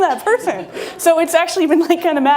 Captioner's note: laughing